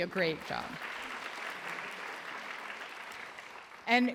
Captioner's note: applause